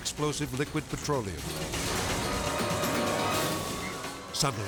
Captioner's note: intense music; siren wailing